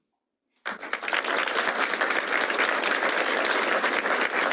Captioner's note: applause